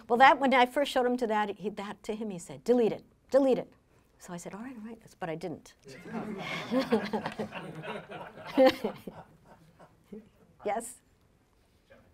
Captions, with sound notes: Well, that one, I first showed him to that, that to him, he said, delete it. Delete it. So, I said, all right, all right, but I didn't. (laughing) Yes?